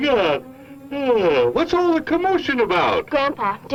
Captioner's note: yawns